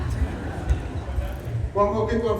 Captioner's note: laughter